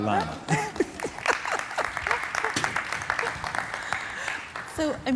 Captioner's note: laughing; audience clapping